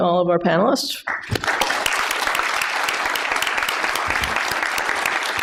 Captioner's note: applause